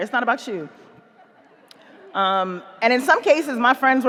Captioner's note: audience laughing